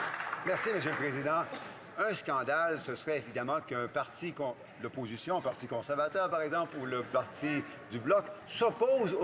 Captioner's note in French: applaudissements